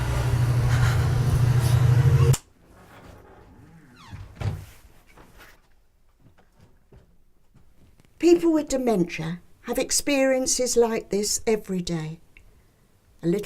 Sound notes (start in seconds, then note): 0.5 nervous breathing